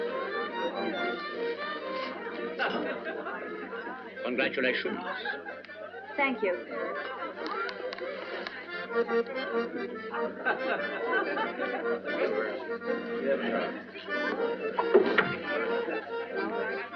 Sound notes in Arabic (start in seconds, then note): 8.7 تستمر المحادثات والموسيقى; 14.8 يفتح الباب